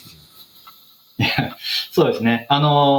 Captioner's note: speaking japanese